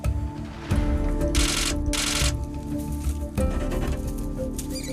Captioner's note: camera clicking; rabbit squealing